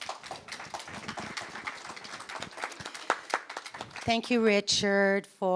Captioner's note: audience applause